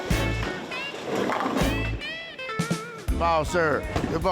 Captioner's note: upbeat music; pins rattling